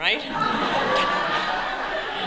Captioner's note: laughter